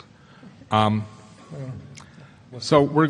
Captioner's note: chuckles